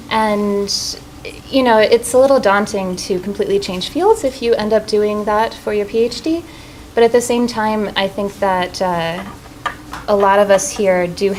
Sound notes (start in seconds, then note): none